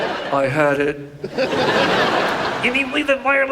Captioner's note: audience laughs